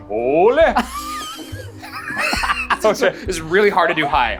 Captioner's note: laugh